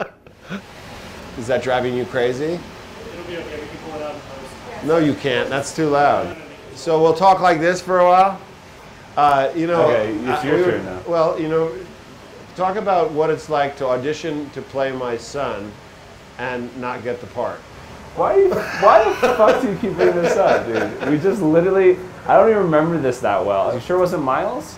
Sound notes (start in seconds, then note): 6.8 talking louder; 18.3 laughs